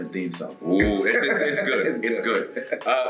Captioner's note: laugh